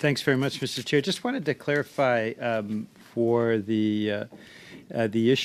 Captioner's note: speaking French